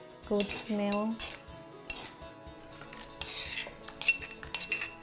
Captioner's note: spoon scrapping